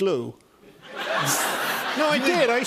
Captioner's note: laughter